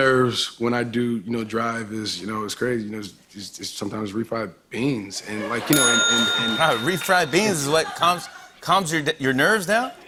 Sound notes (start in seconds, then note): 5.7 bell dings